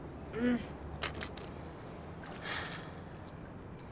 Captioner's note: sigh; quiet grunt